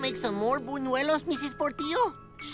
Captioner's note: none